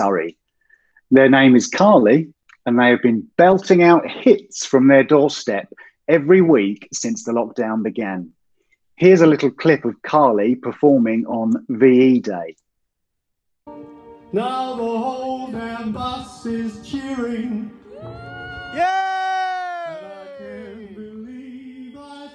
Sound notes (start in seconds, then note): 17.8 cheers